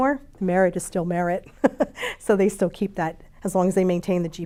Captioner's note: laughs